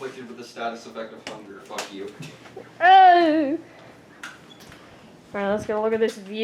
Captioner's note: moans